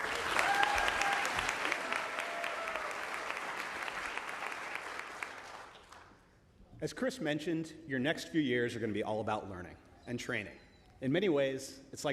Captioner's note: applause